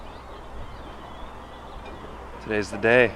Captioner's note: birds chirping